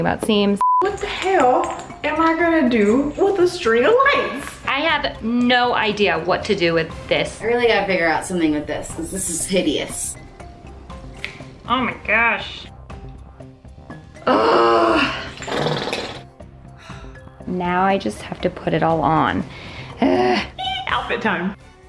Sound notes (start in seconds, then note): 14.3 yells